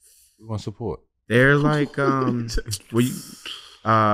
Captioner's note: chuckling